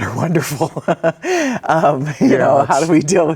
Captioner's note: both laughing